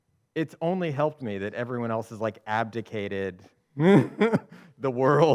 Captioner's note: laughs